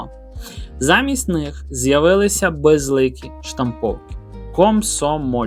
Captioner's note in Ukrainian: сопіння